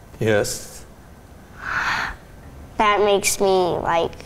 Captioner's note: gasps